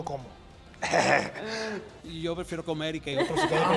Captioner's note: laugh